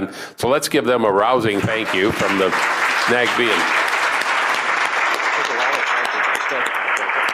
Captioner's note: applause